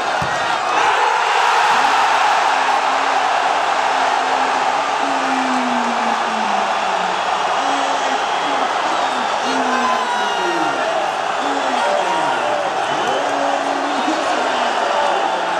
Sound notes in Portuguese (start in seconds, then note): 0.0 gritos de gol; 5.0 torcida celebrando